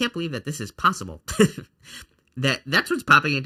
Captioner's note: chuckles